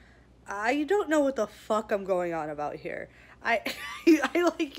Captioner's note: laughs